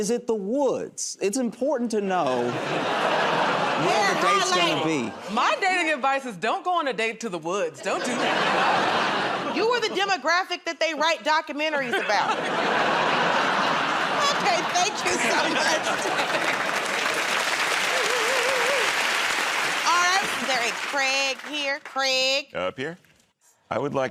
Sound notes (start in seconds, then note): 2.3 laughter; 7.8 laughter; 12.8 laughter and applause; 16.6 applause